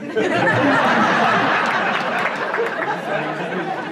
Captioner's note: laughter